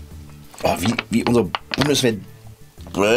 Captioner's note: disgusted noise